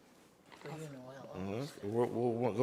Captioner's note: trustees chattering